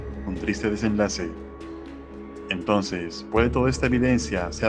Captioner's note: none